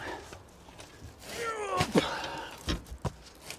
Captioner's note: groan